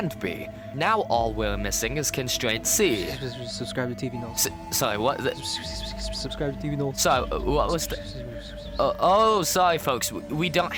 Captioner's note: more murmuring